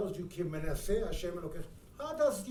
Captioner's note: speaking in foreign language